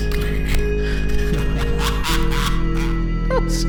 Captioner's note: laughter